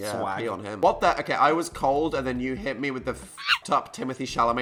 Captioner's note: shriek